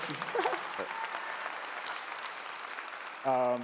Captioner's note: laughing; clapping